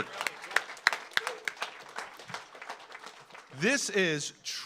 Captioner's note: audience applauds